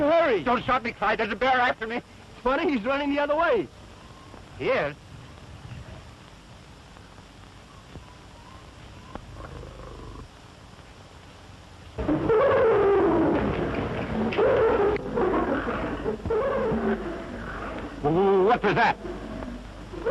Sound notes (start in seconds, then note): 12.0 hyenas screaming